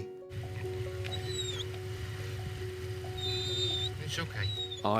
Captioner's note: whimpering